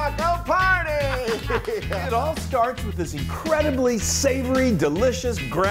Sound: laugh

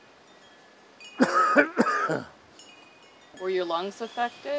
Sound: deep coughing

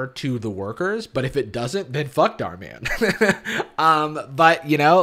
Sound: laughs

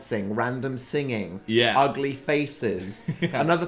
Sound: laughs

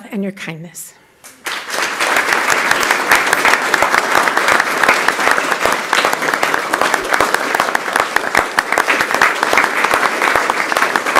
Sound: applause

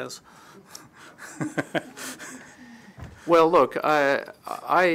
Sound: laughter

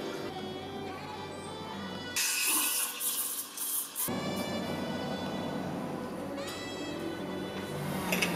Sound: none

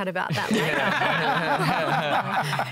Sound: laughter

